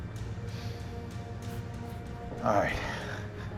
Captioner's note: exhale